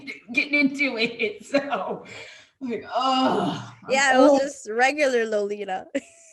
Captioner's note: groans